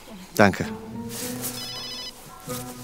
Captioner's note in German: Handyklingeln